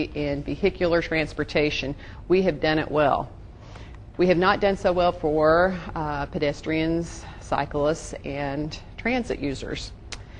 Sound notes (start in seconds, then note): none